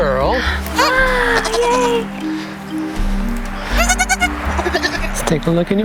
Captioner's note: kid fussing